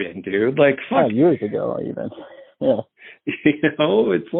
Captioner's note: on phone